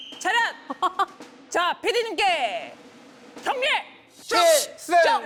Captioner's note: everyone shouting different slogans